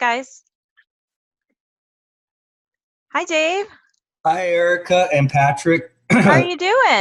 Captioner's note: cough